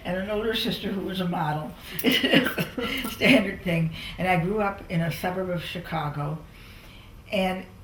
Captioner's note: laughs